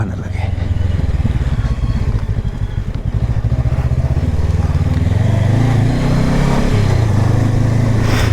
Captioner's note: engine thrum